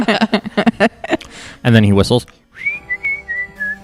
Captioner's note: laughter; whistles